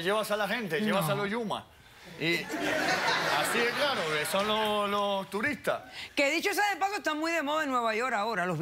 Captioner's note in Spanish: Risas